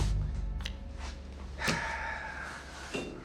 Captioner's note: Foster sighs